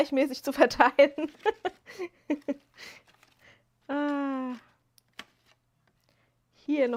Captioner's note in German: gelächter